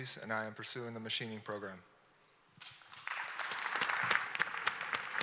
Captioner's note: applause